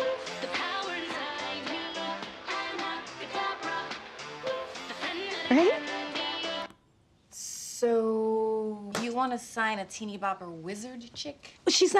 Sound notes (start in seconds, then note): 6.4 music stops